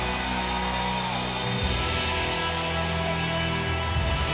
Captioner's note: audience cheers